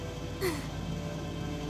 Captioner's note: sigh